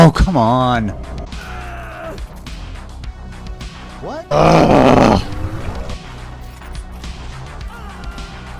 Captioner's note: screaming